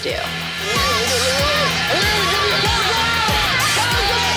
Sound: crowd clamoring

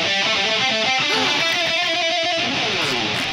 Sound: gasps; quacking

